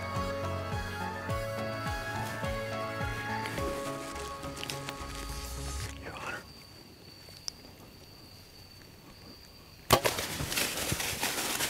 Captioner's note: whispering